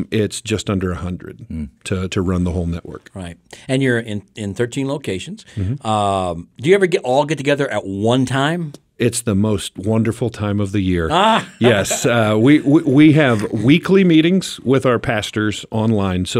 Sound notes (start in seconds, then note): 11.1 chuckles